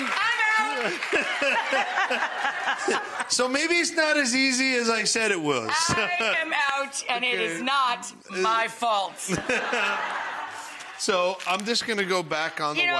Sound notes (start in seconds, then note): 0.8 Buddy and Rachael laughing; 9.2 audience laughing